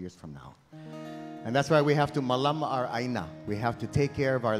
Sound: speaking in Hawaiian

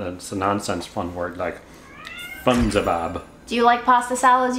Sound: Fred meows

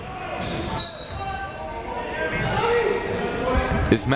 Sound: whistle

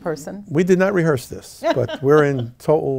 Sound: laughs

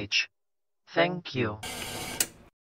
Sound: static, then a click

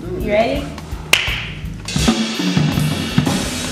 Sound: claps

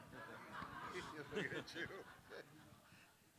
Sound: laughs; laughter

